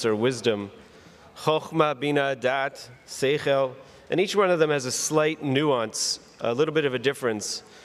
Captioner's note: words in Hebrew